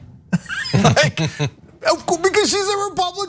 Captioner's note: laugh